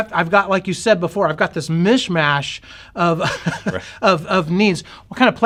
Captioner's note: chuckles